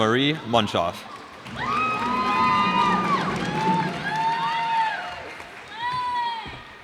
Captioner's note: cheers and applause